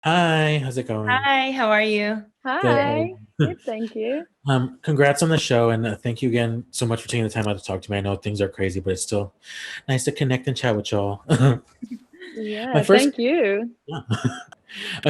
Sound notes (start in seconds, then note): 11.2 all chuckle; 13.9 chuckles